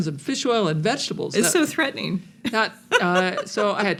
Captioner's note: laughs